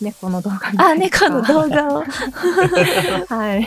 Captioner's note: chuckles